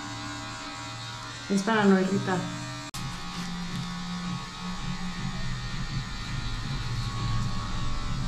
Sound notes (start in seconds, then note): 1.7 speaking in Spanish